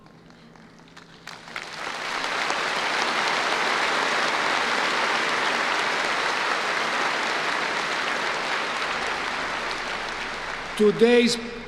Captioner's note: applause